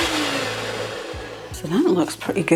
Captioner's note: cake mixer whirring